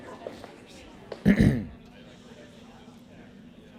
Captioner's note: clears throat